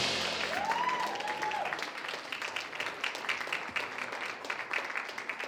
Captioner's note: audience cheers and applauds